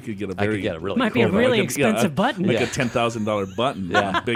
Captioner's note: laughs